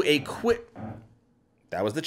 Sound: chair moves

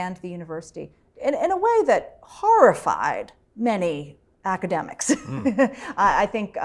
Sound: laugh

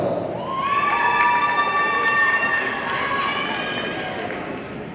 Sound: audience cheering

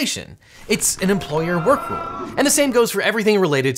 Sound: team chanting

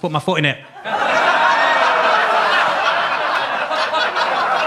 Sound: audience laughing

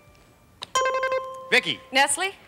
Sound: buzzer rings

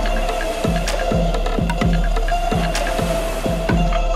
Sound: waves lapping

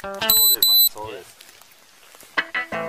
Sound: beeping sound

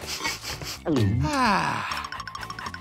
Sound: sighing

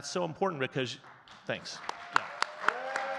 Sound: audience claps and cheers

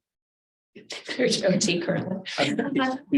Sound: board members laugh

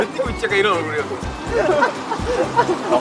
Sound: laughing

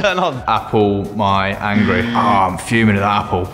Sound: incorrect buzzer

